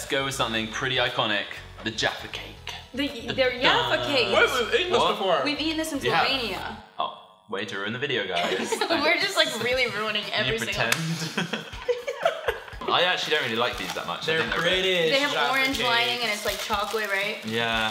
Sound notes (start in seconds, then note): 8.3 laughter